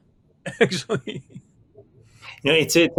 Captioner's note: laughing